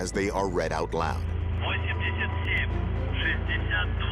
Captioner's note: speaking russian